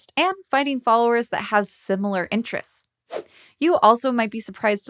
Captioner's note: logo whooshing